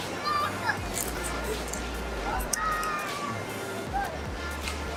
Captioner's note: chewing